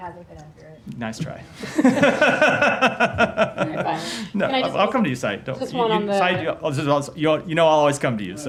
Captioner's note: laughter